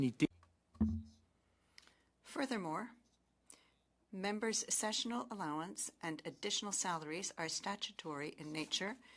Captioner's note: speaking French